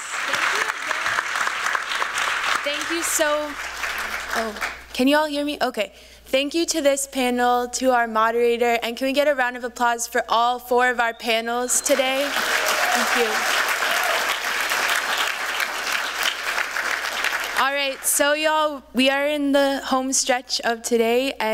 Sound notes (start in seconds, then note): 11.8 applause